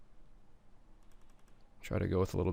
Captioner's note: keyboard clacking; mouse clicking